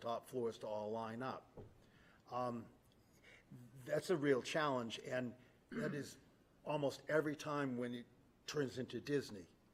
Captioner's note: clears throat